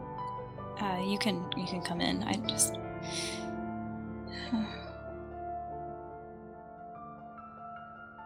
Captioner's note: sighs